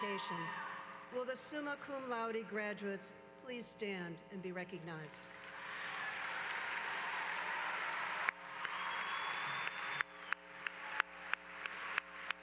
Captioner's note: applause